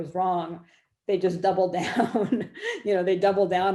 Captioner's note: laughs